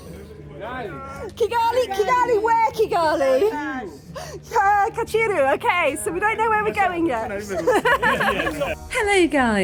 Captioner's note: laughing